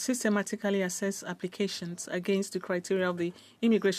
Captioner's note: speaking French